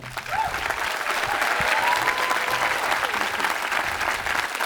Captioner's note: applauding and cheering